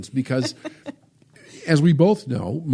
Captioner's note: laughs